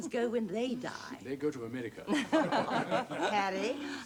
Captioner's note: laughter